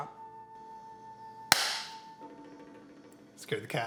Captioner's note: hands clap